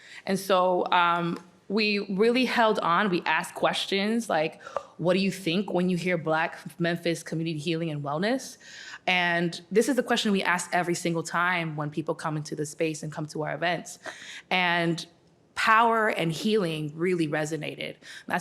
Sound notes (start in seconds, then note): none